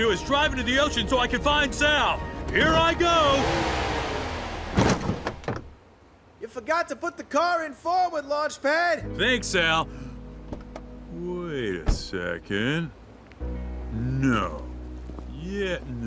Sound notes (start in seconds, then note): 2.5 engine revs; 5.1 crash; 9.3 hopeful music playing